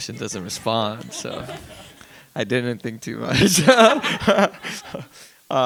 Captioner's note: laughs